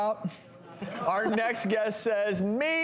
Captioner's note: laughs